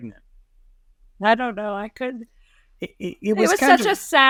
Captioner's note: yawn